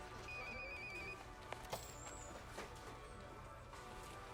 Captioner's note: phone rings